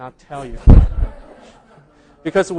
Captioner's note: laughing